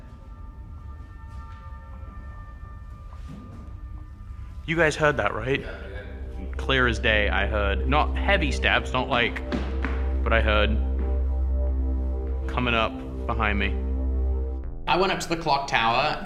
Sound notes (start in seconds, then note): 9.0 soft footsteps; 9.0 stomping